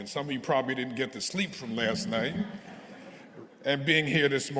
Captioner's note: audience chuckling